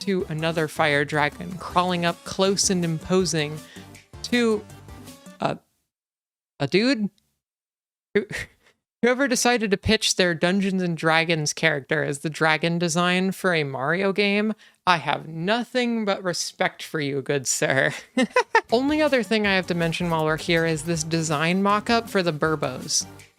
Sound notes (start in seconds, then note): 18.2 laugh